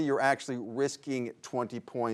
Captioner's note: none